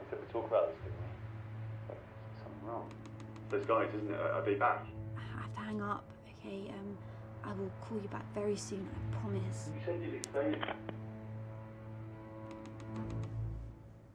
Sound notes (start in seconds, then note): 12.2 line clunks; 12.4 laptop mouse clicking